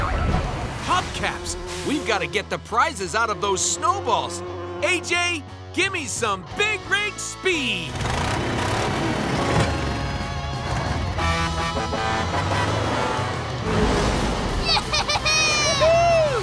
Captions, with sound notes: Hubcaps! We've got to get the prizes out of those snowballs. AJ, give me some Big Rig Speed! [revving] [honking] - Yeah! - Whoo-hoo!